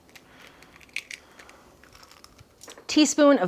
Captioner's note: egg cracking